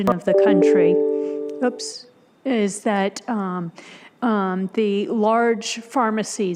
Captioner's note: computer dings